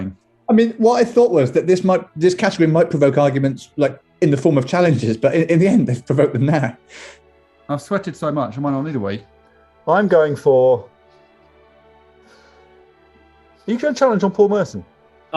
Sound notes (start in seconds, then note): 12.1 sighs